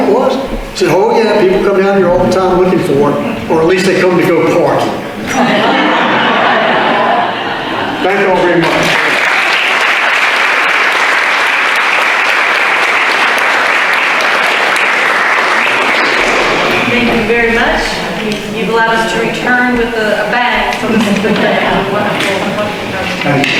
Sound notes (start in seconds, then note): 5.1 audience laughter; 9.3 audience applause